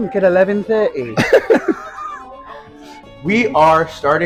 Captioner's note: laughing